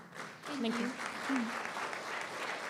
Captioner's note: applause